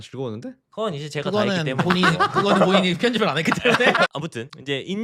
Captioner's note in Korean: 웃음